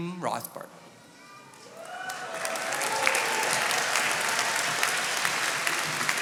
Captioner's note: attendees applauding